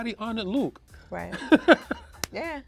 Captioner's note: laughs